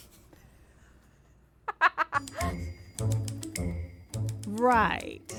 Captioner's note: chuckles